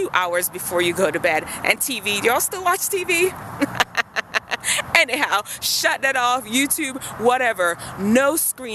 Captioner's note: laughs